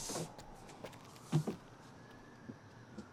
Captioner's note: police siren wailing in the distance